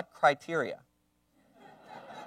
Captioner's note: laugher